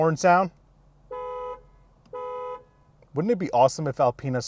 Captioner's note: horn honking